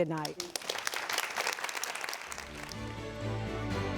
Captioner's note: audience applauds; upbeat music